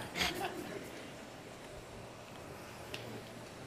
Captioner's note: laughter; 笑聲